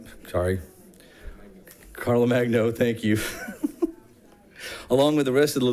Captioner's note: chuckles